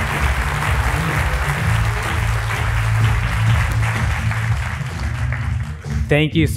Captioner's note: applause